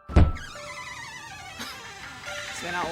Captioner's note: door creaks open